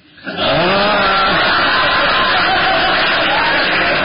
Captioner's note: laughter